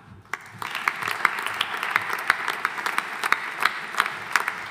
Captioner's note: audience applauding